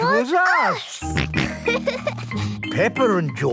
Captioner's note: snorting; laughter